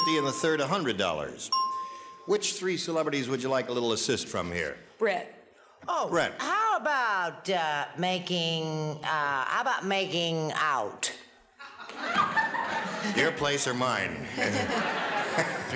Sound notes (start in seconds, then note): 11.6 audience laughter